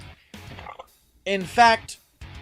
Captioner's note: Belch